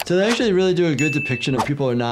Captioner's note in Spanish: campana sonando